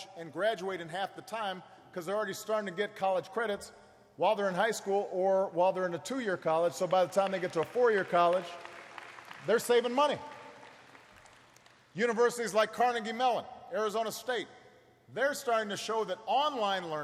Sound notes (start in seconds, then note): 11.3 applause